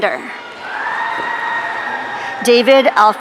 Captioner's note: audience cheering